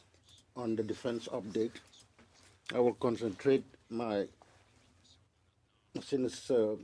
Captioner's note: speaking French